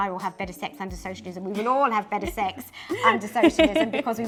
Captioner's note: laughs